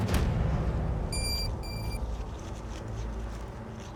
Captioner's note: pinpointer beeping